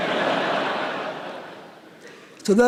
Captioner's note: laughter